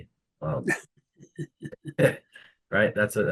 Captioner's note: laughing